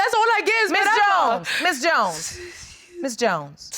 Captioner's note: sobbing